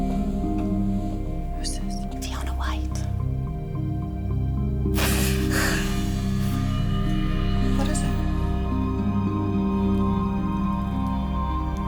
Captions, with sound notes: - Who's this? - Fiona White. (gasps) (ominous orchestral music) What is it?